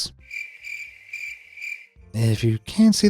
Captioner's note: crickets chirping